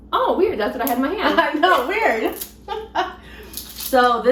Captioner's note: laughs